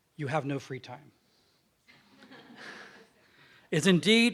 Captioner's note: <i>Subdued laughs from audience</i>